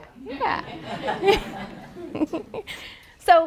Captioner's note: laughter